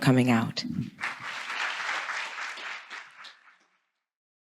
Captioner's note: audience applauds